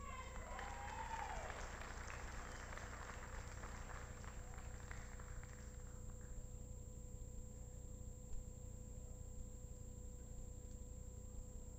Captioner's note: applause